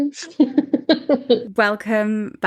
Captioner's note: laughing